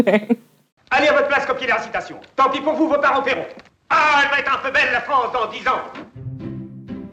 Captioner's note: speaking French